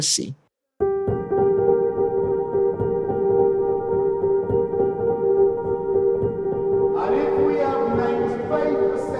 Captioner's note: soundbite of archived recording